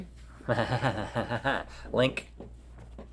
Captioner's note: laughs